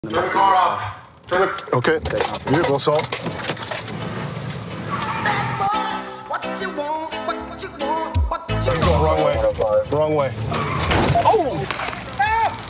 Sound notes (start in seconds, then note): 10.5 crash